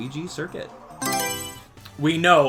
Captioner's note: Mario Selection Sound